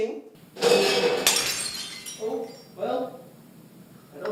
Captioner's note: pots and pans crashing and something glass breaks